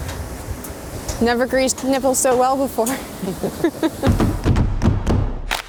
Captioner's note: chuckles; upbeat music